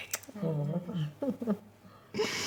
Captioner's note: chuckling